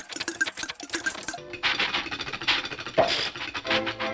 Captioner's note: engine chuffing and clattering